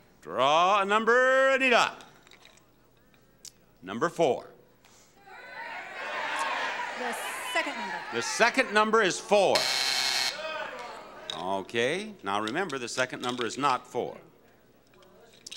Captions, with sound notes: Draw a number, Anita. Number four. (audience shouting) The second number. The second number is four. (buzzer blaring) Okay, now remember, the second number is not four.